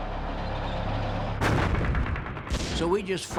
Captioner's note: gunfire